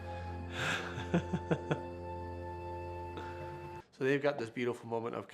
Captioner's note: chuckles